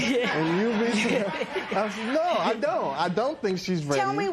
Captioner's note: laughter